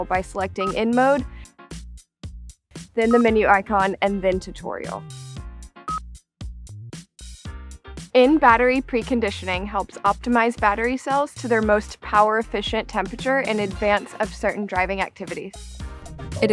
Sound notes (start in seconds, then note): 5.8 screen beeps; 7.0 light music